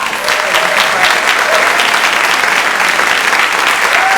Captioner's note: audience applauding